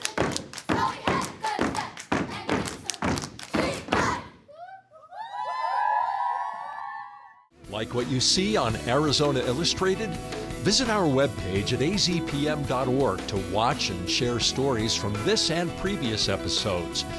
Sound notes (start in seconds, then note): 5.1 students cheer